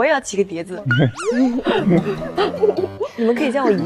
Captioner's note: laughing